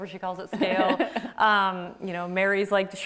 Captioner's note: laughs